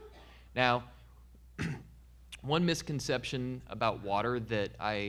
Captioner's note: clearing throat